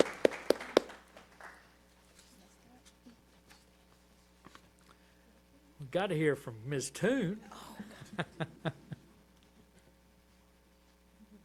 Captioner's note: applause